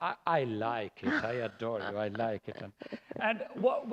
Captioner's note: laughter